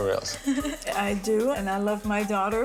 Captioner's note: laughs